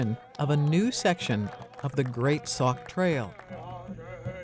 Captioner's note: clapping